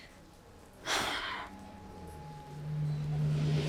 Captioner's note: Giuliana sighs; suspenseful music